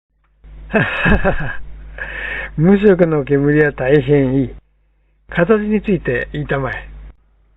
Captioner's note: laughs